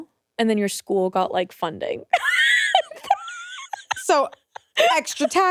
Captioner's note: laughs